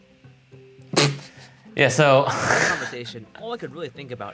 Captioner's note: laughing